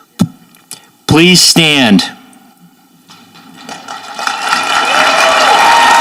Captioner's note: audience applauding